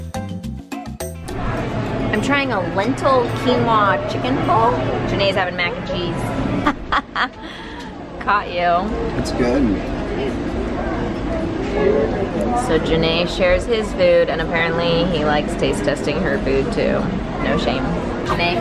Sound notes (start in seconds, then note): 6.6 laughs